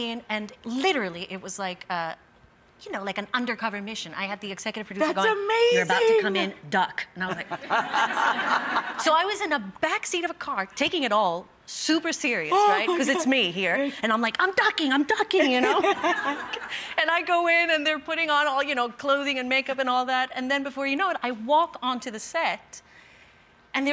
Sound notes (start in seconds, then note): 7.3 audience laughing; 15.4 Rachael laughing